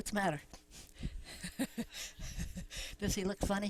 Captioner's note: laughs